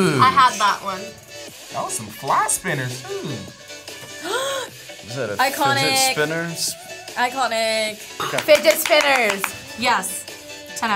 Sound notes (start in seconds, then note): 4.1 gasps